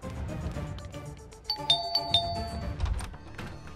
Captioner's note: Doorbell ringing; Door opens